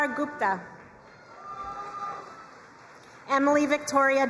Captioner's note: crowd cheering and applauding